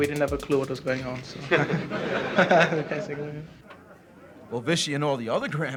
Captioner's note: laughs